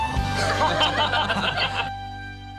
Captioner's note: laughter from everyone